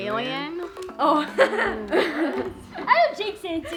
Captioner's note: laughing